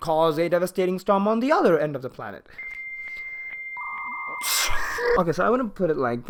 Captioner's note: exasperated sigh